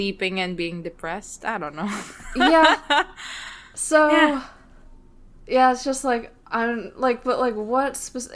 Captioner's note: laughs